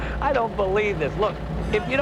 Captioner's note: laughing